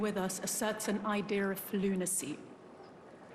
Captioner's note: speaking french